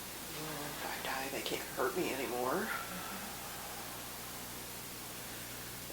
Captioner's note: exhales